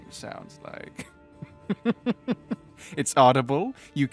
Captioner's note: laughs